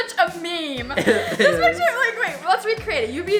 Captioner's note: laughs